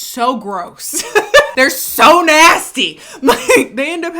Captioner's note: laughing